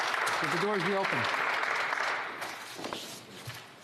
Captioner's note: some Applause